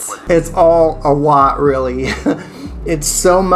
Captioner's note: laughs